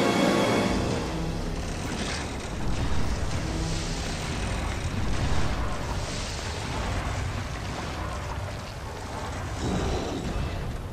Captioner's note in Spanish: Lluvia cayendo